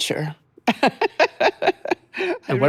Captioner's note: laughing